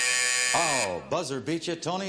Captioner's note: buzzer